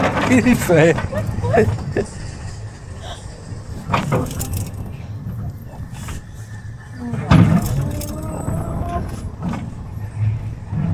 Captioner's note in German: gelächter